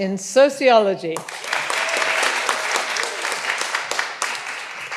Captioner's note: all applauding